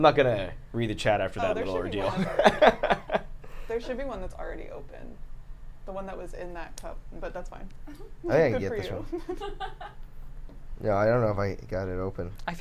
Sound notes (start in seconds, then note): 1.9 laughs; 8.8 laughs